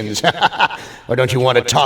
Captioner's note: laughs